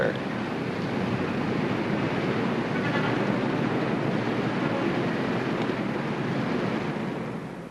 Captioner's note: city street noise